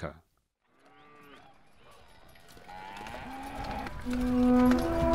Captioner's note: cattle and horses moving; slow music